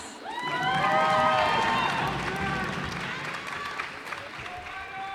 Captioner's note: cheers and applause